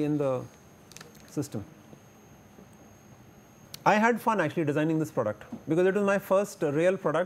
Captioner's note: air conditioning